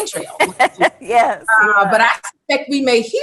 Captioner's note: laughing